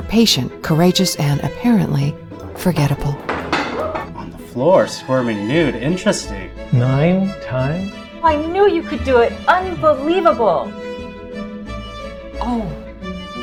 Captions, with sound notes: We are patient, courageous and apparently, forgettable. [body thuds] On the floor swarming nude, interesting. Nine times? I knew you could do it, unbelievable. Oh.